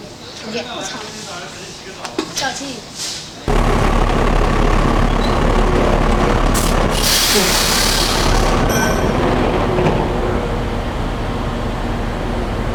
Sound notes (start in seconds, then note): 0.0 speaking in Mandarin; 3.4 engines rumbling